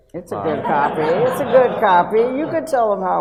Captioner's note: audience laughs